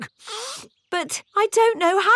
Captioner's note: sniffs